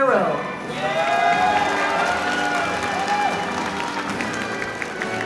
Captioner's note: audience applauding